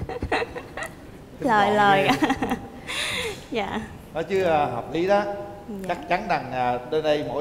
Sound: laughter

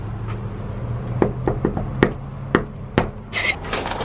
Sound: knocking

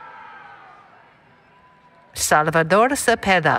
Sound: cheering

